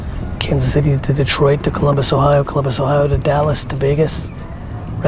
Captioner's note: none